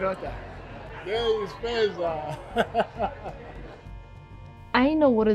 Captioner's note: laughs